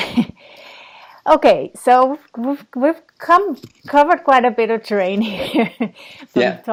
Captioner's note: chuckles